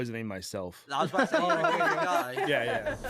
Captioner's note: laughter